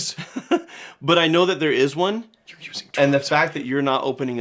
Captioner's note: whispers